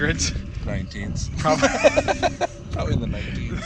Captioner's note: laughing